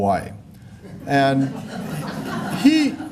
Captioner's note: laughter